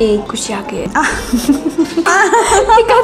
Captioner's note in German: lacht